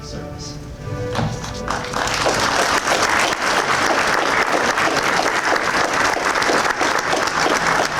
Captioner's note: applause